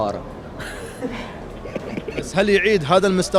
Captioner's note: laughing